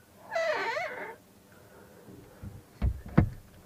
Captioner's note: door creaking shut